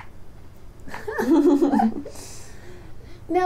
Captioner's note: laughter